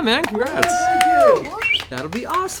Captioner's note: cheering